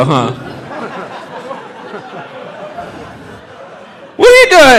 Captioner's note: audience laughing